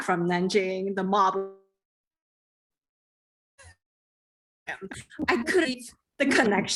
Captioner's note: audio distortion